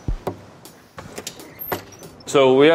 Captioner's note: door squeaking